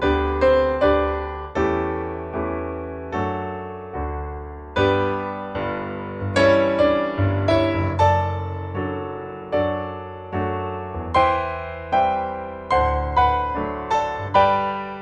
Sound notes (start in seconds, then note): none